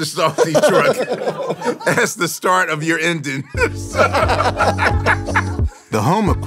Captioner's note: laughs